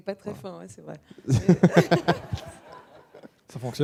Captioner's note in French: rires